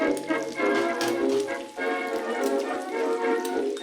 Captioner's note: jaunty music; sizzling